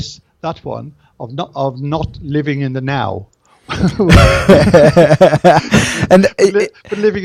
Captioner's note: laughs